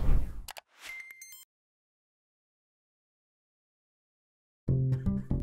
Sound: beeping; mouse click; soft music

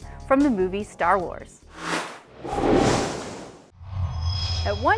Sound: sound Effects

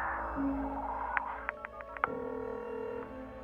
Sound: line beeping, ringing

